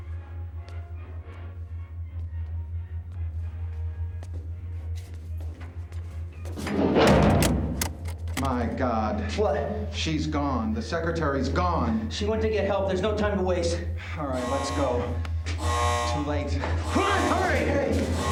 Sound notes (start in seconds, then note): 14.1 alarm wails